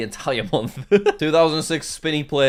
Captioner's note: laughs